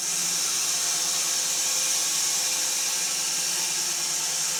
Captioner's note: saw whirring